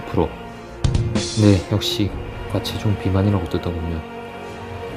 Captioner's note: shivering